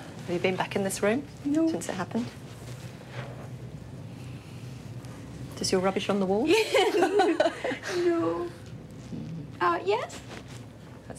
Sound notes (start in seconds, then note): 6.5 both laugh